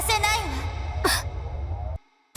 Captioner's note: gasp